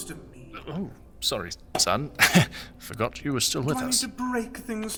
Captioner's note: awkward laugh